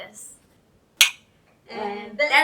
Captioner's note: clink